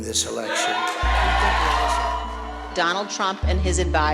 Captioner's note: crowd cheering